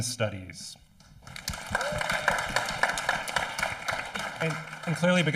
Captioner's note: audience applauding